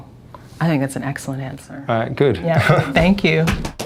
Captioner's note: laughs